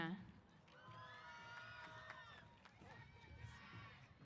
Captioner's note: applause & Cheers